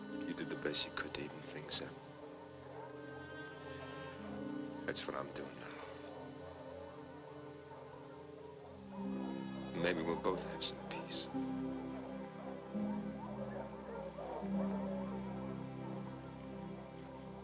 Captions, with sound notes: You did the best you could to even things up. That's what I'm doing now. Then maybe we'll both have some peace. (dogs barking) (gentle music)